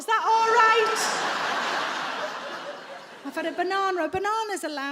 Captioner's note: audience laughs